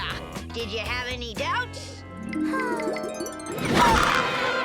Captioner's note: Lizbeth sighs; fun music; children playing